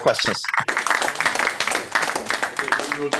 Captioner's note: applause